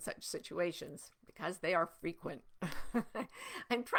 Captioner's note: chuckling